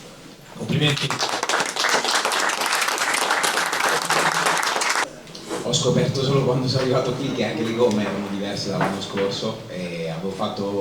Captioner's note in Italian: Applauso